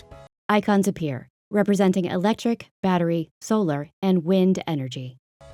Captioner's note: voiceover